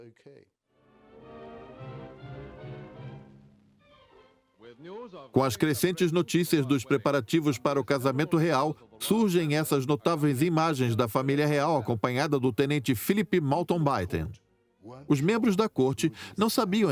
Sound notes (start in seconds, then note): 1.4 dramatic music; 4.1 voiceover